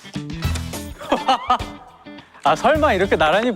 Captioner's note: hahaha